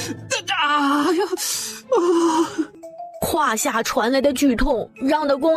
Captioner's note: groans in pain